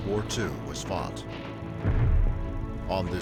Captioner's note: explosion